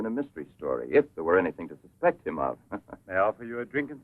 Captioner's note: chuckles